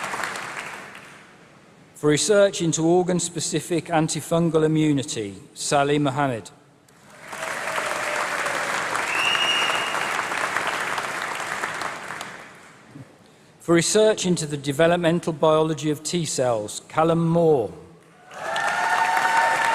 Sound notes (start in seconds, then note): 0.0 applause; 7.0 applause; 18.2 applause